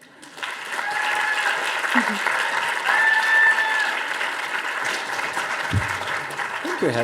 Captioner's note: audience applause